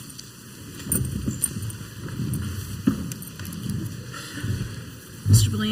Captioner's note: council members and audience chairs scraping